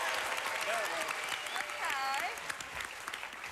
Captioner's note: audience applauding